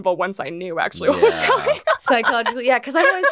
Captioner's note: laughs